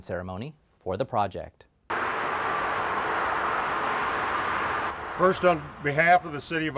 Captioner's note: machinery noise in background